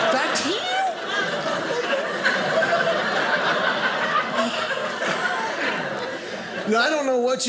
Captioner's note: audience laughing